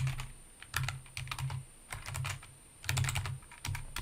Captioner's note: keyboard keys clank